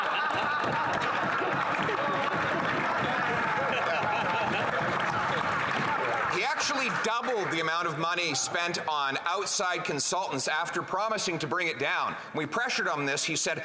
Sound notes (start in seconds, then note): 3.5 laughter